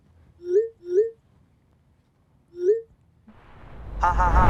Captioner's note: dinging sounds